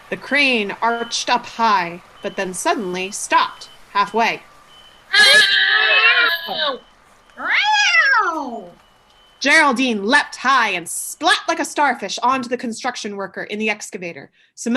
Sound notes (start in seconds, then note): 7.4 cat sound